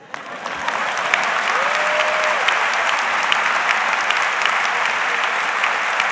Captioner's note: audience applauds; audience laughs